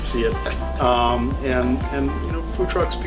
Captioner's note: laughing